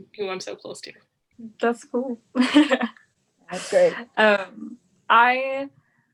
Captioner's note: laughs